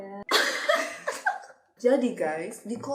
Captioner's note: laughing